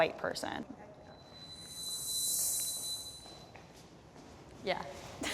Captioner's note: pitch whirring